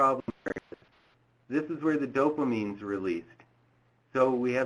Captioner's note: audio distorted